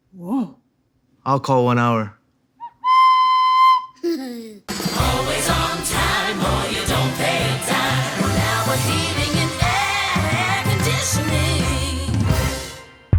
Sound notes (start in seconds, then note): 2.6 recorder whistling; 3.9 child laughs